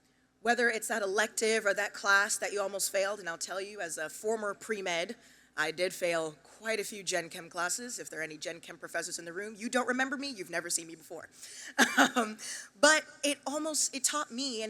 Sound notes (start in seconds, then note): 11.6 laughs